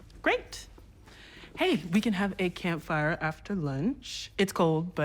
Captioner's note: none